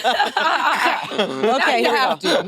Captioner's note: participants laughing